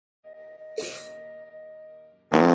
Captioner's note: sob; comedically-timed flatulence sound effect